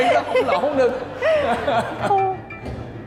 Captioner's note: laughing